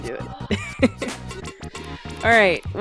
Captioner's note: laughs